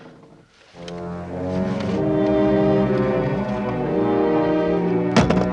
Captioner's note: line buzzing continues